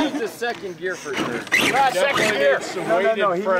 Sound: laughter

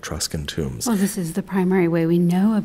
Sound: voiceover

